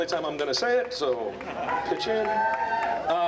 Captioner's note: cheering